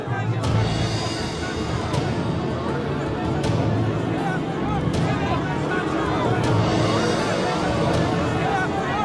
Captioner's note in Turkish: Kalabalık bağrışma sesleri